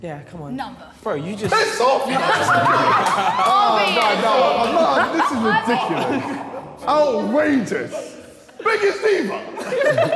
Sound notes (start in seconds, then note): 3.0 all laughing